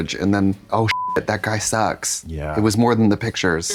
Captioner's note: beep